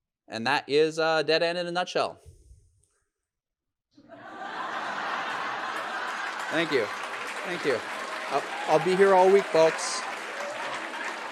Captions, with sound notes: And that is dead_end in a nutshell. (audience laughs) Thank you. Thank you. I'll be here all week, folks.